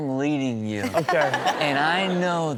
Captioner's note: Chanel and audience laughing